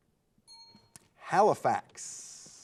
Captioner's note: timer buzzing